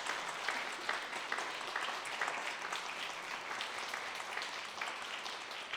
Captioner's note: audience applauding